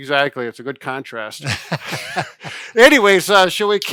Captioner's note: both chuckle